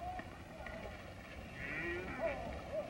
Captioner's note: mooing